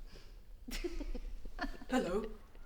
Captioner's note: both laughing